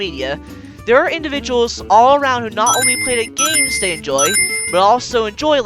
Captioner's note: Sonic ring chimes in between